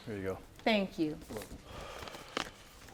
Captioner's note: sighing